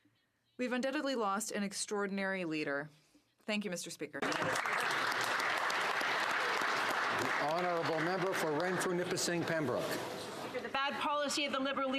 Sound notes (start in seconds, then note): 9.2 applause